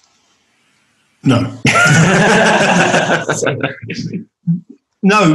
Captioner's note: all laugh